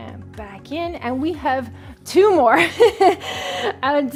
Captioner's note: laughs